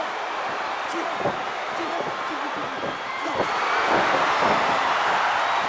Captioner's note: Hogan grunting; crowd cheers